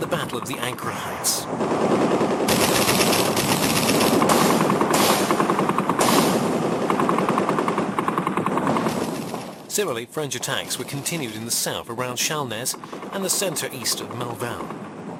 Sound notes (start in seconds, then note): 1.5 artillery blasts; 1.6 gunfire